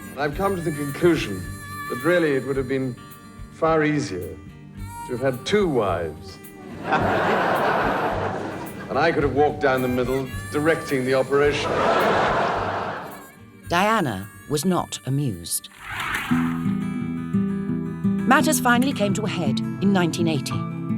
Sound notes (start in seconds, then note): 6.6 audience laughs; 11.4 audience laughs